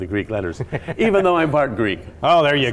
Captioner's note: laughing